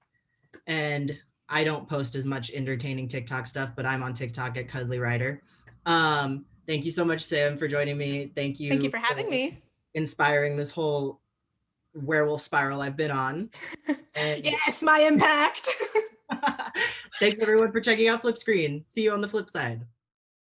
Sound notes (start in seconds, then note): 16.2 both laugh